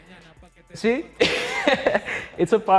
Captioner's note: laughs